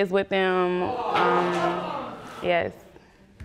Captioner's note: audience gasps